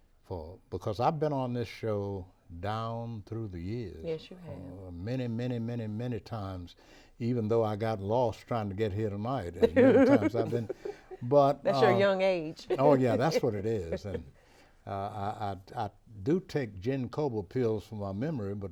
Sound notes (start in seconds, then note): 9.6 laughs; 12.6 laughs